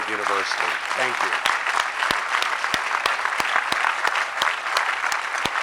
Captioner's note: audience clapping